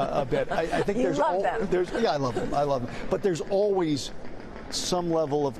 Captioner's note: laughter